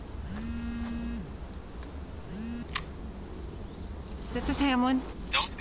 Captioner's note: phone buzzes